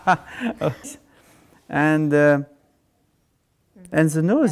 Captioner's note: laughing